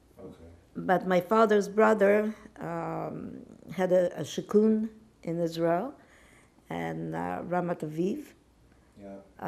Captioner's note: hebrew